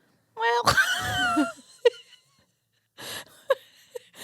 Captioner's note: both laughing